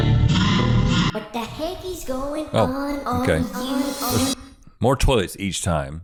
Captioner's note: high-pitched voice